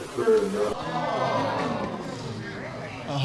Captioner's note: audience exclaim